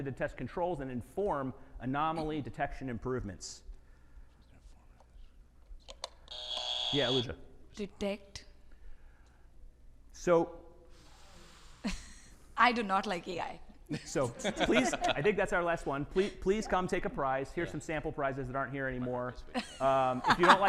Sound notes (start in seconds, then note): 6.3 buzzer buzzing